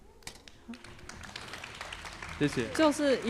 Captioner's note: applause